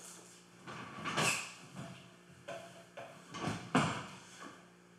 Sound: chair squeaks

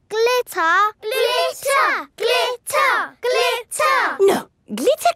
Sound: chanting

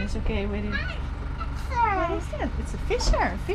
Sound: speaks in an indistinct language

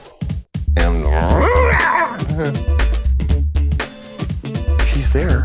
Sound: growls

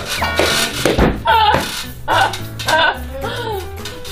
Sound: haha

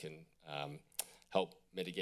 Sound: clicks tongue

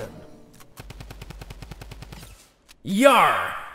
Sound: gunfire

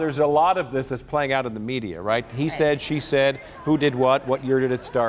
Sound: laughter

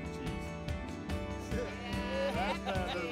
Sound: cheering

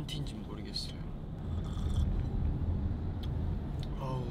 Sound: slurp

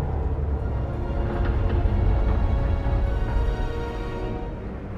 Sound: metallic groaning, creaking

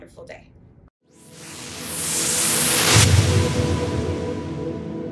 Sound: whooshing

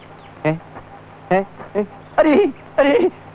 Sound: anklets tinkling

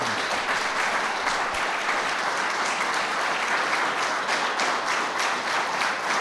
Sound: applause

